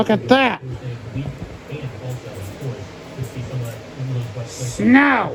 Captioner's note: "21Alive News at 4" plays in background